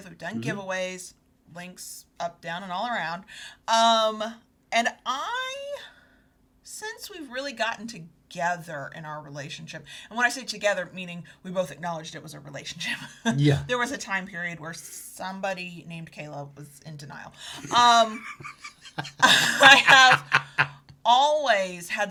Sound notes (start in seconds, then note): 13.1 chuckles; 17.5 both laughing